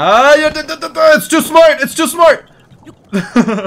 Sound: laughs

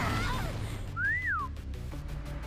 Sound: growling; whistling

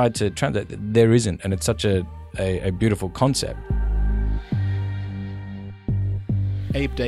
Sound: voiceover

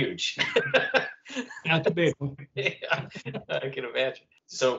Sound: laughter

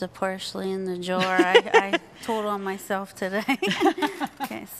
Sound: laughing

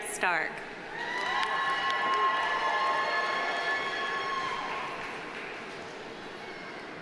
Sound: audience cheering; audience applauding

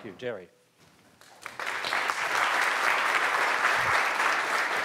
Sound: applause

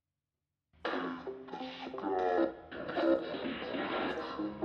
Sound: speaker growling

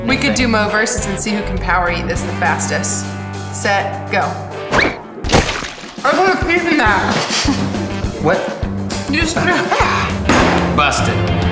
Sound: laughter

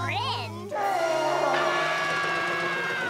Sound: screaming; roaring

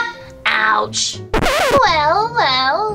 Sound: record scratches

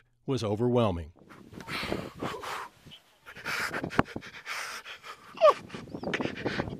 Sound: heavy breathing, sobbing

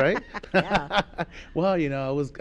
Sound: laughing

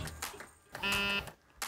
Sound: phone buzz

